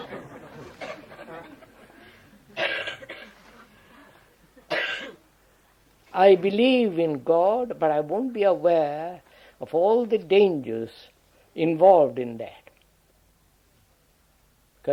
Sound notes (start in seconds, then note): 0.0 laughter